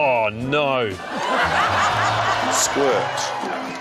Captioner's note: laughter